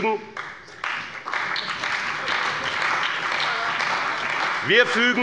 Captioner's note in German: Beifall bei dem BÜNDNIS 90/DIE GRÜNEN, der CDU und der SPD